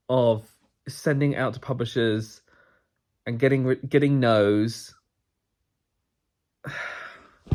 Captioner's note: sighs